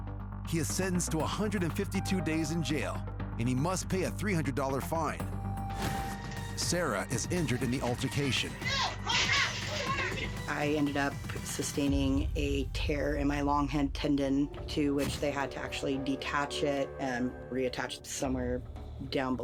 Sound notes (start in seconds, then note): 8.7 overlapping shouting